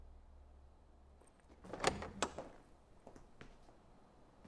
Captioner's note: door clicking